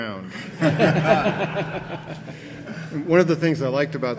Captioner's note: audience laughing